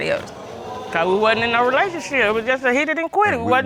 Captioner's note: audience exclaiming